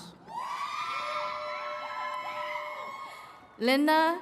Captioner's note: attendees cheering